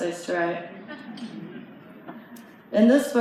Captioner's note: light laughter